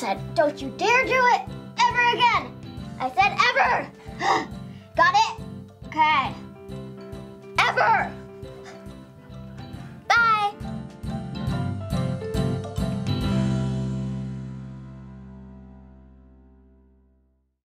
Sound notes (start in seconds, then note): 3.9 pants; 9.8 sweetly